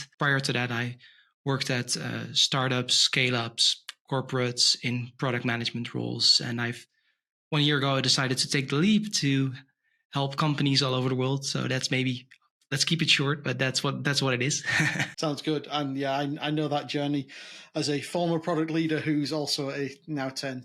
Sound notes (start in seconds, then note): 14.4 chuckles